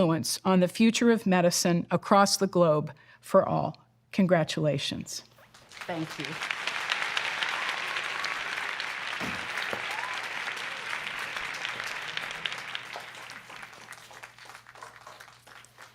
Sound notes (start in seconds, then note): 7.1 applause